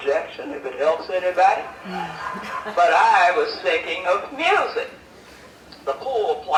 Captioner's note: laughter